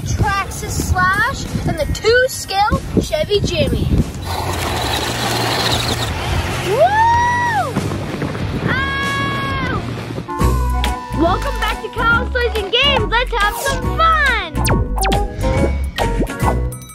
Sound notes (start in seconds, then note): 4.1 wheels squealing; 11.0 playful music; 14.8 lasers pinging